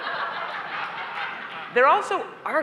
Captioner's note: laughter